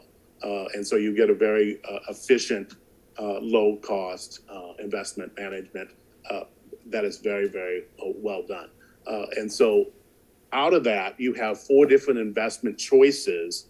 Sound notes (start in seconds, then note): none